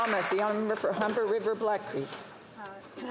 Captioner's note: applause